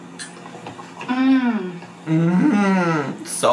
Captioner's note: hums